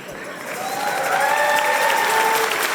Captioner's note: applause and cheers